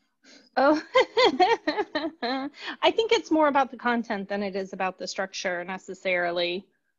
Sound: laughter

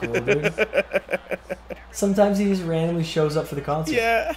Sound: laugh

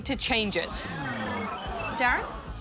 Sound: audience exclaims

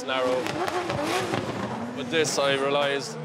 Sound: tires screeching

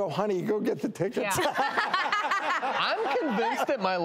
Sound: laughs

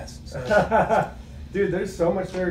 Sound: man laughs

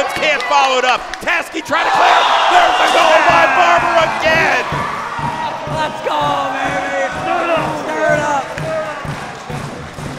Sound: cheering

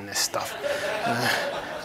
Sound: laughter

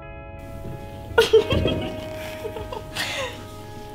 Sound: laughter

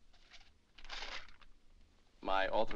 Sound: paper rustles

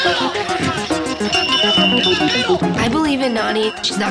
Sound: bell rings; beep

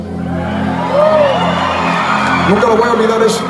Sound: applaud

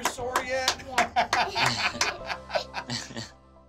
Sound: laughs

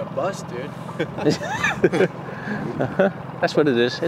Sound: both laughing

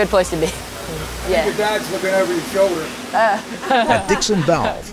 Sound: laughter

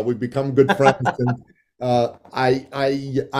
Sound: laughing

